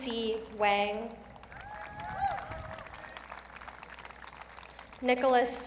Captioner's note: audience cheering